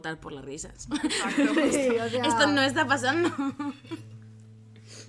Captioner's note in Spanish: risas